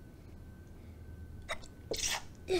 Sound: sneezes

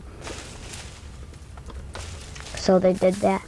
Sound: leaves rustling loudly

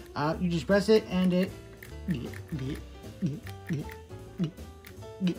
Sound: mimic of dino eating sound

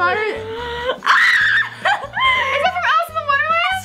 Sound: screams

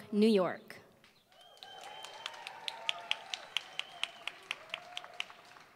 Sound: applause

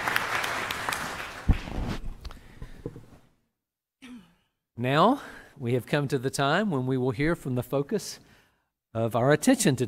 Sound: applause

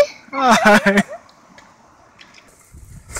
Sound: laughs

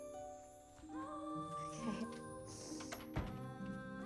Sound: sniffling

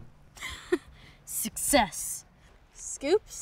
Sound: laughs

